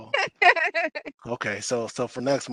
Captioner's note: laughs